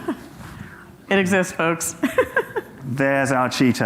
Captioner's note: laughs